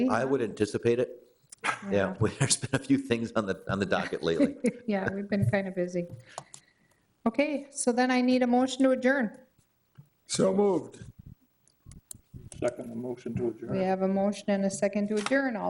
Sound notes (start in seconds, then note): 1.6 chuckling; 3.8 chuckling